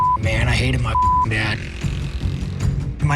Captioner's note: dirt bike engine revving